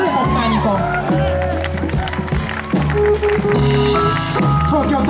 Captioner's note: audience cheers